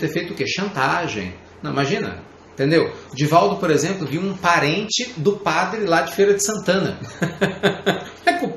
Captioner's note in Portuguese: Risos